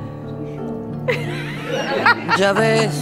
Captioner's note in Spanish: risas